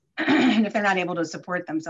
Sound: clears throat

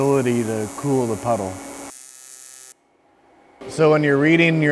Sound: electric welding machine humming

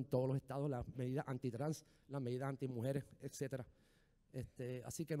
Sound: speaking in foreign language

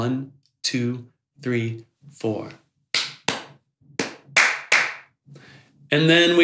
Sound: clap clap, clap clap clap

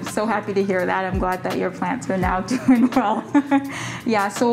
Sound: chuckles

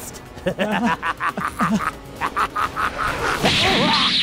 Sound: creepy laughter

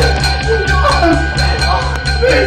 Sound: Virginia crying

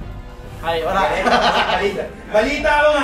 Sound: laughter

